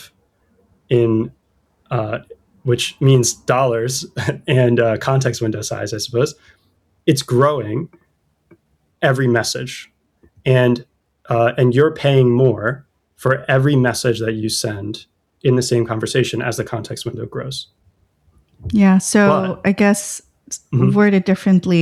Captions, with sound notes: in [UH] which means dollars [laughter] and [UH] context window size I suppose, it's growing every message. And [UH] and you're paying more for every message that you send in the same conversation as the context window grows. Yeah, so But I guess s- word it differently. A